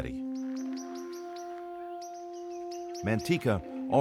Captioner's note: light instrumental music; bird chirping